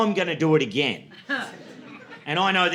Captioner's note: laughter